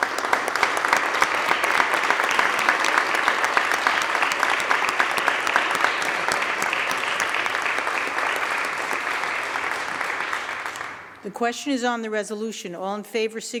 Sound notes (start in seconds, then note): 1.6 applause